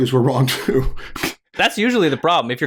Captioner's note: chuckles